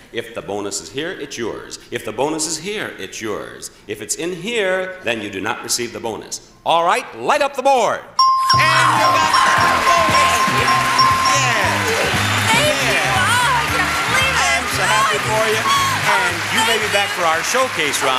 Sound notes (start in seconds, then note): 8.2 bell dings; 8.5 audience cheers